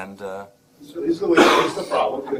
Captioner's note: audience member coughing